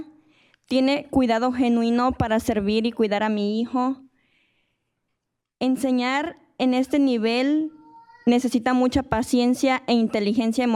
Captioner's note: speaking in spanish